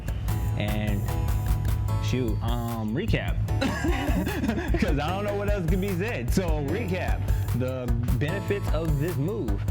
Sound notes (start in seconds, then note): 3.6 both laugh